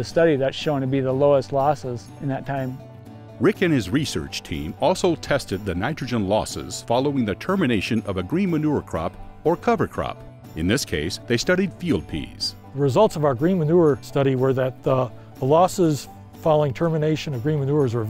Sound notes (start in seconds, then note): 3.4 voiceover